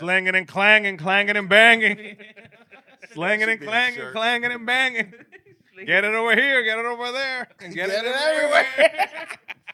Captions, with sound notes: Slinging and clanging, clanging and banging. (Laughing) Slinging and clanging, clanging and banging. Get it over here, get it over there. Get it everywhere.